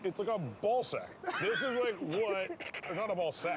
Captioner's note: laughing